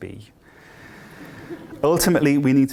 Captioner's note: laughter